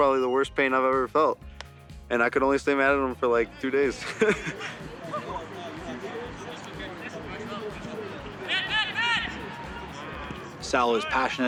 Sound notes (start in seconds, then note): 8.5 laughs